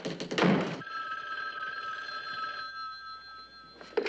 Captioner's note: ringing